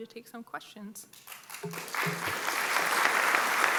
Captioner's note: applause